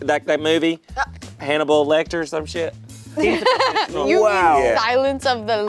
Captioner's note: laughing